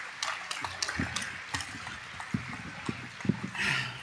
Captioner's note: applause